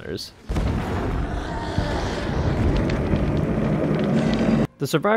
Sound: angry Oni Noises

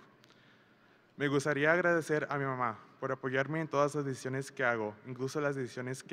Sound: speaks in foreign language

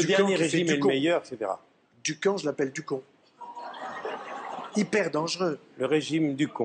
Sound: laughs

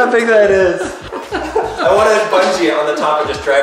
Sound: laughing

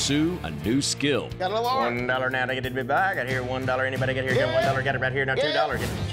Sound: speaks fast as auctioneer

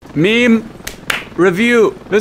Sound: clap

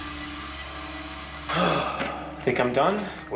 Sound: sigh

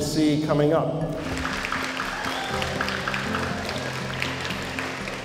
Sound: applause

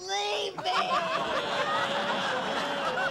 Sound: laughter

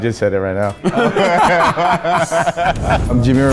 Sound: all laugh

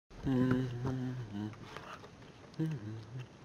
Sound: gentle humming

